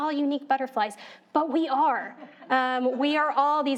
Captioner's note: audience laughing